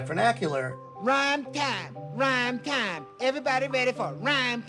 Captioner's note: soundbite of tv show, "sesame street"